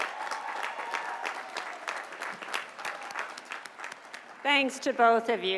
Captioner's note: applause